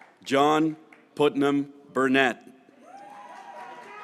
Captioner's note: graduates cheering